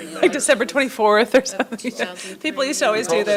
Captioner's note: laughs